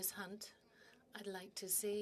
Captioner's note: speaking in French